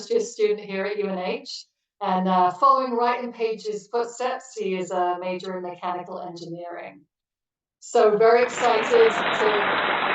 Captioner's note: clapping